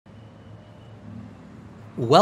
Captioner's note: ambient sounds of a busy Bangkok street